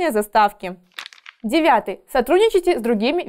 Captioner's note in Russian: Звук переворачивающейся страницы